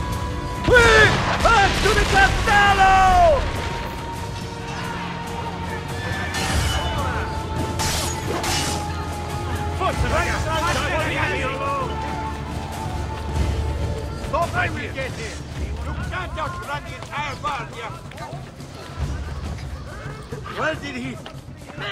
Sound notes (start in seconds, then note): 0.7 explosions; 6.2 figthing sounds